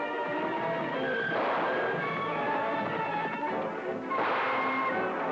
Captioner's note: guns blasting